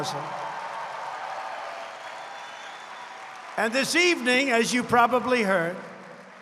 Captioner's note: applause